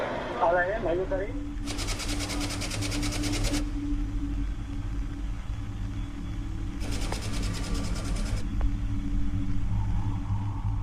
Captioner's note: commentator speaking Spanish